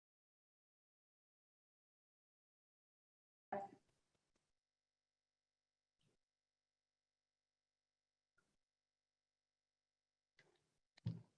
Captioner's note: silence